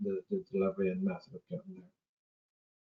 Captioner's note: audio distorts 25.10